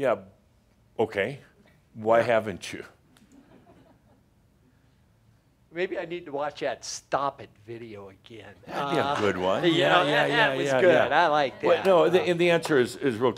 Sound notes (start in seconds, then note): 3.5 a few chuckles; 8.0 some laughter